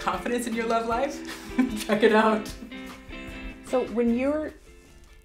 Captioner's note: laughs